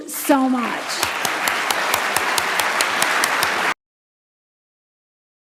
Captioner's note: audience applauding